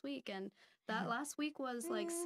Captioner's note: laughing